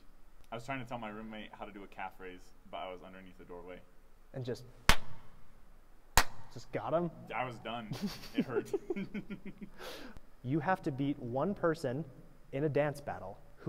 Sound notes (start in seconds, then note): 6.1 clap; 7.9 laughter